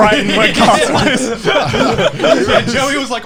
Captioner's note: all laughing